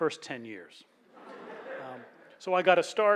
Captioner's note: laughs